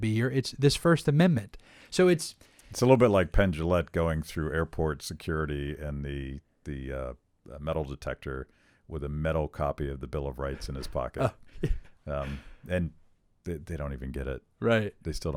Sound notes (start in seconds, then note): 10.5 laughs